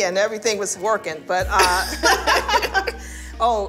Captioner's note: laughter